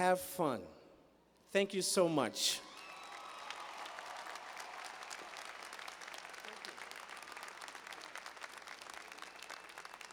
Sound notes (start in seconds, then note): 2.6 cheers and applause